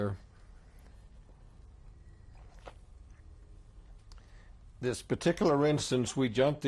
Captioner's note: drinks